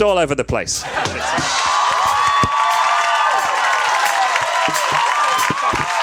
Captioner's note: audience cheers and applauds